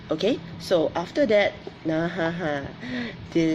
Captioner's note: none